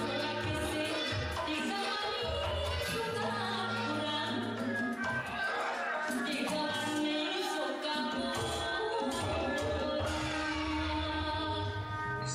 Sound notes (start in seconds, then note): 0.2 woman singing in a foreign language; 6.1 people exclaiming; 6.1 singing continues